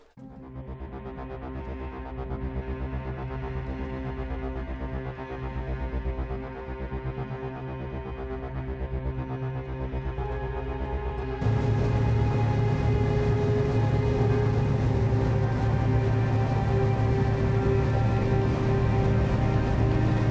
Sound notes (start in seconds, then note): 0.2 dramatic, suspenseful music; 11.5 motor whirring; 17.2 suspenseful music